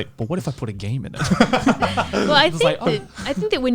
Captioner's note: laughs